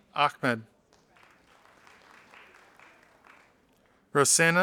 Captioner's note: audience applauding